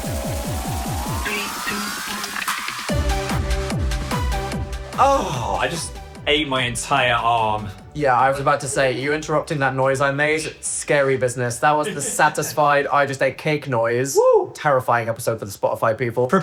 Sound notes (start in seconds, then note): 4.9 groaning; 11.7 laughing